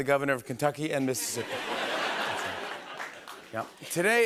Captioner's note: laughter